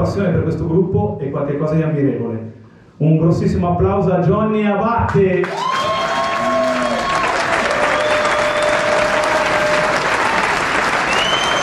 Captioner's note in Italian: Applauso